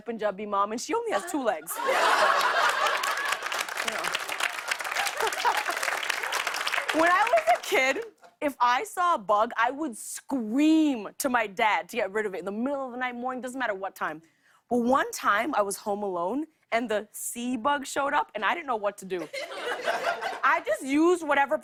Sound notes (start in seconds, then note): 1.7 laughter and applause; 4.8 laughs